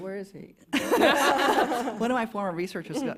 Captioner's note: laughter